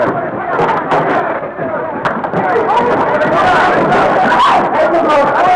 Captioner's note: crowd shouting